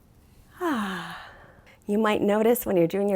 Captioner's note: exhaling